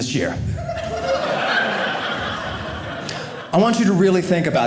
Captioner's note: audience laughing